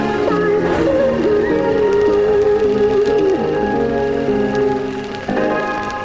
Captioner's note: fire whooshing